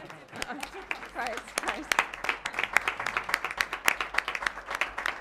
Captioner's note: applause